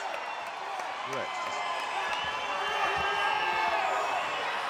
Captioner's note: crowd cheering